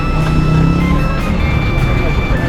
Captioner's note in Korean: 엄청 큰 소리로 부름